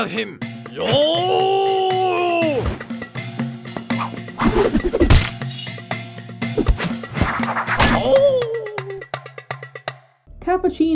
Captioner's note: fighting bean noises